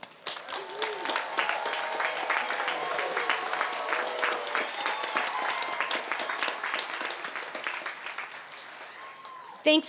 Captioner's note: applause and cheers